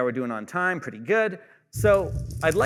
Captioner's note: fire crackling